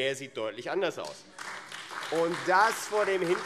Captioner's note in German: Beifall AfD